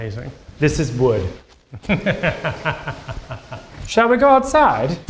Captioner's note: laughs